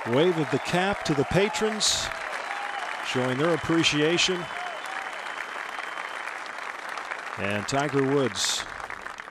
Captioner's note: cheers and applause